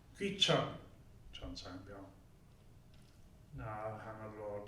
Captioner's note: speaking korean